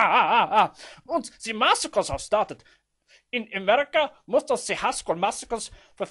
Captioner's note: laughs